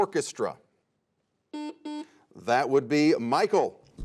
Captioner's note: buzzer sounds